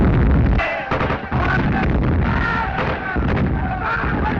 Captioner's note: screaming